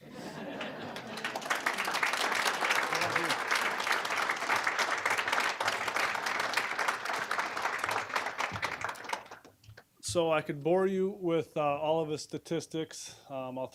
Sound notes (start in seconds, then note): 0.0 audience laughing; 0.1 applause